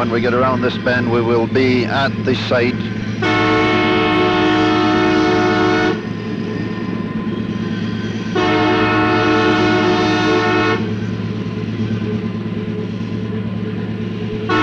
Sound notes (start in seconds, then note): 2.2 train Horn